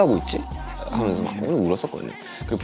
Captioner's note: sobbed resenting the circumstances